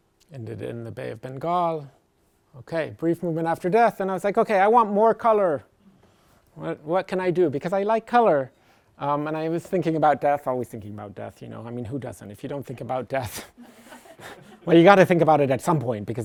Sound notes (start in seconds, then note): 13.6 laughter